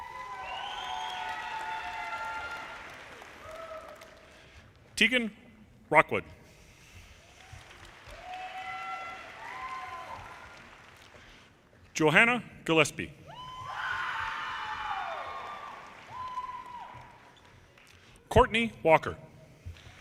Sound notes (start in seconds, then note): 0.0 audience applauds; 7.2 audience applauds; 13.4 audience cheers and applause; 19.8 audience cheers and applause